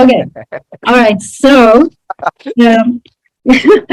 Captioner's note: laughs